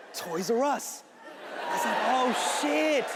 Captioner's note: audience cheering